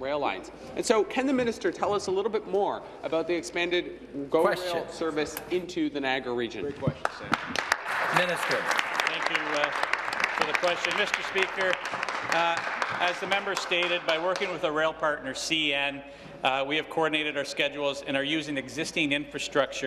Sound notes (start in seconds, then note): 10.6 some Applause